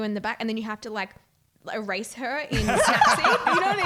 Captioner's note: voice muffled